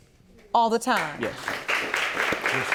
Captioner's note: audience applauding